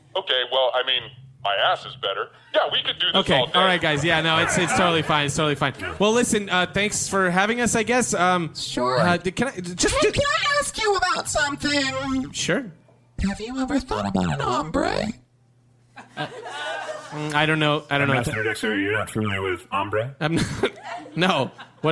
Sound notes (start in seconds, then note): 6.6 audience laughter; 16.0 audience laughter